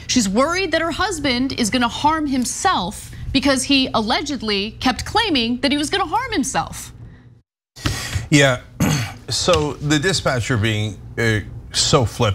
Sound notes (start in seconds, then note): 8.7 cough